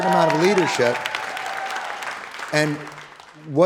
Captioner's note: audience applauding